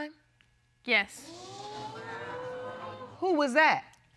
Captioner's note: audience exclaiming